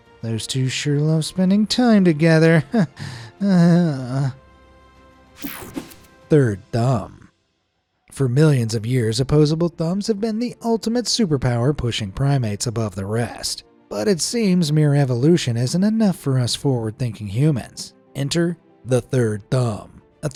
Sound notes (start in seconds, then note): 2.9 laughs; 2.9 sighs